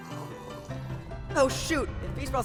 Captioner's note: distant rumbling